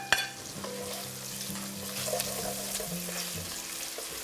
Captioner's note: food sizzling